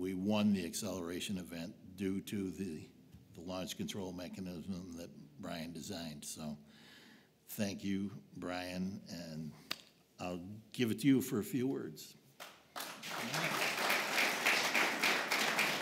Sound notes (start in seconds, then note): 12.4 applause